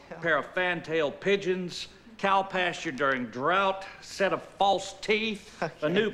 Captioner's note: light laughter